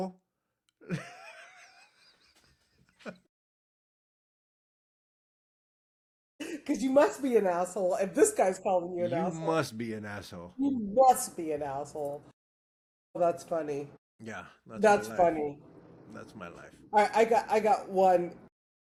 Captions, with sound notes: (Laughing) Cause you must be an asshole. If this guy's calling you an asshole. You must be an asshole. You must be an asshole. Well, that's funny. Yeah. That's funny. That's my life. I got one, quite the reverse.